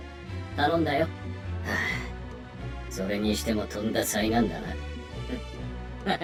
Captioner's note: sigh